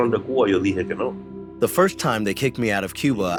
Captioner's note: through translator; speaking Spanish; through translator